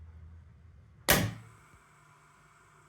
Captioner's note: click